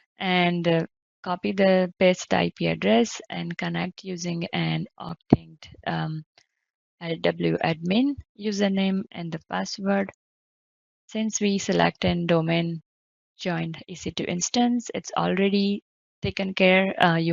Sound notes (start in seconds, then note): 5.7 audio distorting